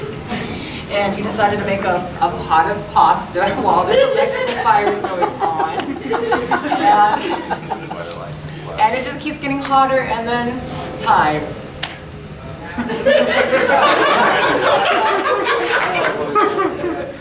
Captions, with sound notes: And you decided to make a pot of pasta while this electrical fire's going on. (audience chuckling) And it just keeps getting hotter, and then...Time. (audience laughing)